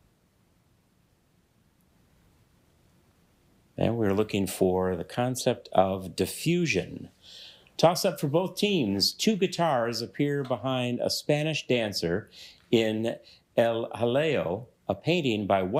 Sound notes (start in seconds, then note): none